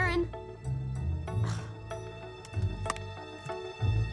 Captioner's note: grunts